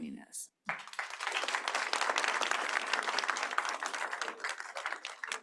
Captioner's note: applause